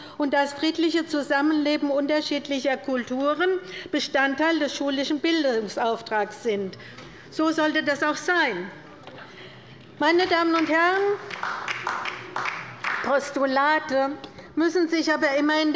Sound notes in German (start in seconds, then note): 10.2 Beifall bei der LINKEN